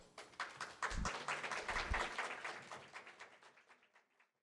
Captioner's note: audience applauds